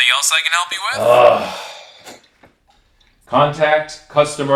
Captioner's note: sighing